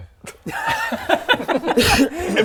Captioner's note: selfish laughter